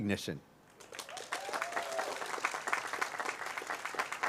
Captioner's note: cheers, applause